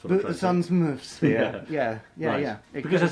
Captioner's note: laughs